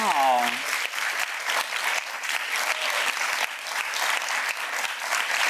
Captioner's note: audience clapping